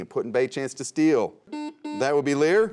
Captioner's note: buzzer sounds